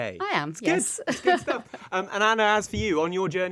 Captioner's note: laughing